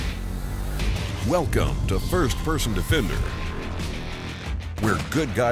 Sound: hard rock music; voiceover

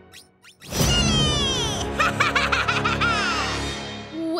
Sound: laughing

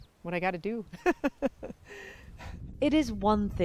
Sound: laughter

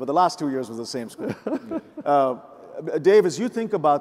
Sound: laughs

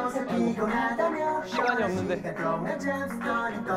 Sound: hurried

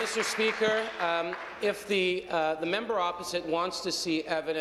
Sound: applause

